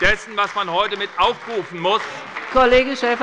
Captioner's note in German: Beifall bei der SPD und der FDP